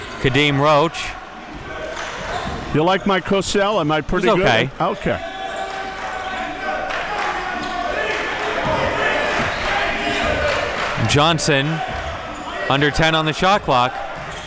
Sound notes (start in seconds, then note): 7.9 applause